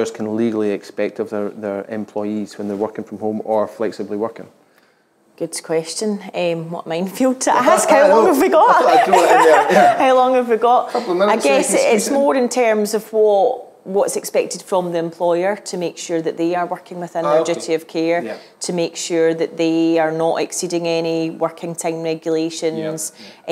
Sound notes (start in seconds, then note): 8.6 chuckling